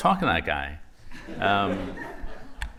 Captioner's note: laughter